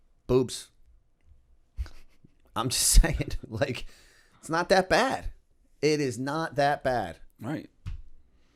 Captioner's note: chuckle